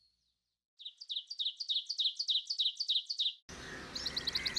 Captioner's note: crow cawing